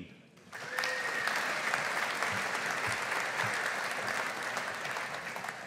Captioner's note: audience applauding